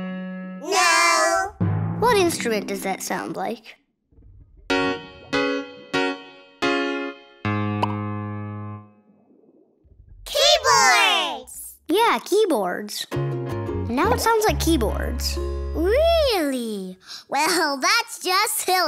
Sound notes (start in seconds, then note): none